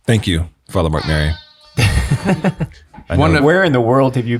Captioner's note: horn blaring; chuckling